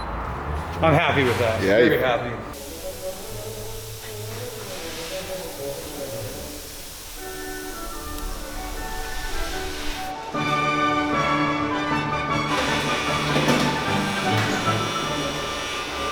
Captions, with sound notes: - I'm happy with that, very happy. (classical music) (drilling)